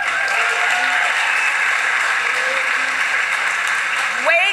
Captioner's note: applause